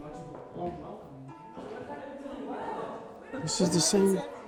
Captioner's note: reflective music; group exclaiming, murmuring